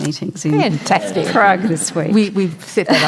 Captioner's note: audience Laughter